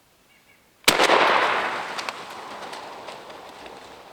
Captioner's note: gun shoots